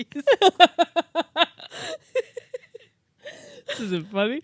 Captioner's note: both laughing; laughs